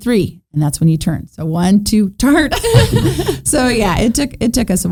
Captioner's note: chuckling